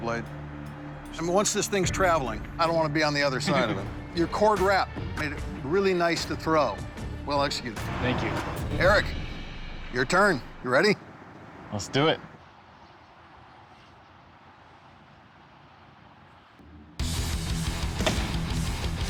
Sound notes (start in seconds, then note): 17.3 bang